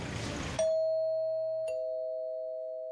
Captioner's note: doorbell rings